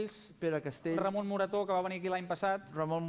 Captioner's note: non-english speech